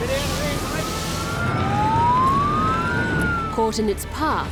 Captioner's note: siren wails